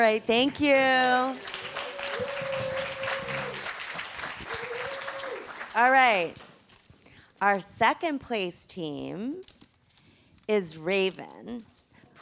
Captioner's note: applause